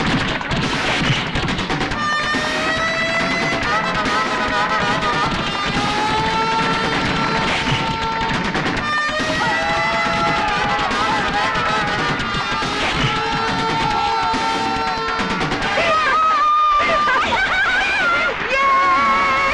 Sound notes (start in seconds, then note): 15.7 hooting